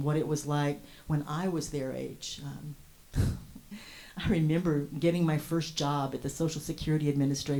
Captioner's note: scoffs